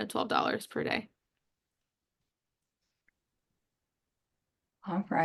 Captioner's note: silence